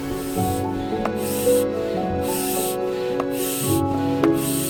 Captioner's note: hand-pump pumping